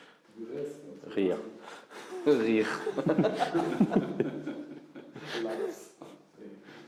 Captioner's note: laughs